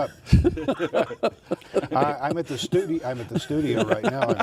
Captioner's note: laughing